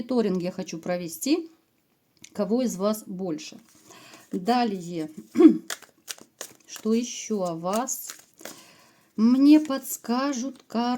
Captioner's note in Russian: откашливается